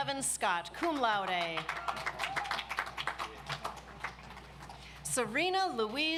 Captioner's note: audience applauds